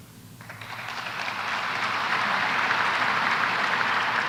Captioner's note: applause